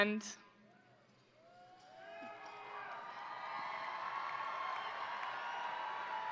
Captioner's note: crowd applauding; crowd cheering